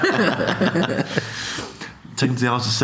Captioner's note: laughs